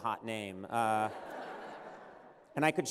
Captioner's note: laughter